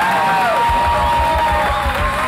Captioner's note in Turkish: Bağrışlar